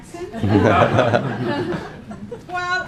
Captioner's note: laughing